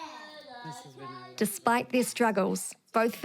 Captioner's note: children chatter